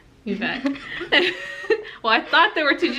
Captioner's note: snickers